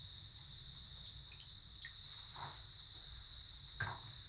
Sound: water trickles

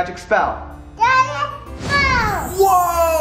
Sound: babbling

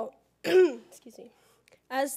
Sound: cough

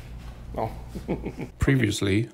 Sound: laughing

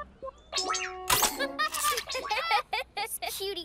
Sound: laughter

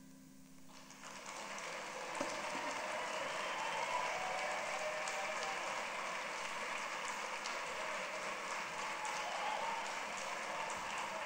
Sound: applause

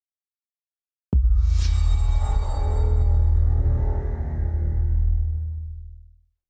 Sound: transition sound

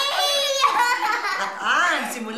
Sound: laughs

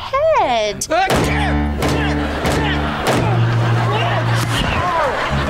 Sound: grunting

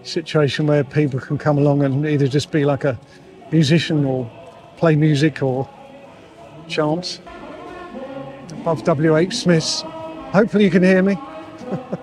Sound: chanting

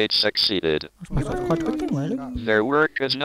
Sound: people noise

